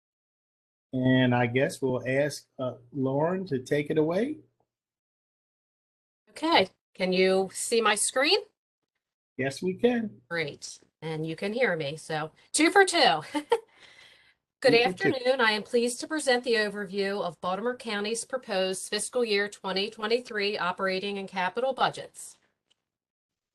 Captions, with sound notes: - I guess we'll ask Lauren to take it away. - Can you see my screen? - Yes, we can. - Great, and you can hear me so two for two. [LAUGHTER] Good afternoon. I am pleased to present the overview of Baltimore County's proposed fiscal year 2023, operating and capital budgets.